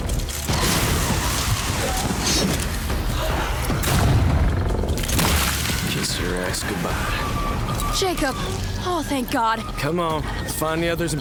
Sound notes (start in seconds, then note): 0.5 shotgun booms; 3.6 vampire roars